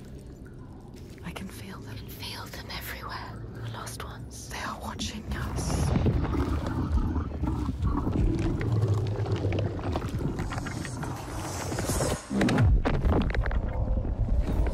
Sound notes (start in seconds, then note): 6.9 loud growling; 10.4 eerie whispering